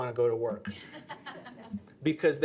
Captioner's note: audience laughing